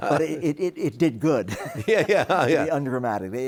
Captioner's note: chuckles